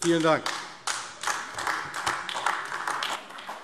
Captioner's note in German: Beifall AfD